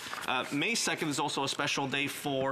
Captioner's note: applause